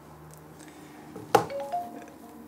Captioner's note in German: Handy macht Nachrichtengeräusch